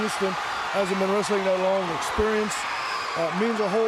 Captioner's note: crowd cheering